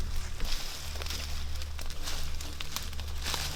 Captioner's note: rustling leaves